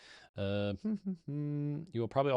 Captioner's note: hums